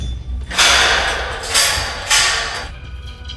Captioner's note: banging